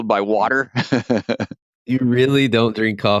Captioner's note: laughter